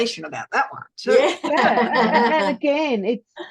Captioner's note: everyone is laughing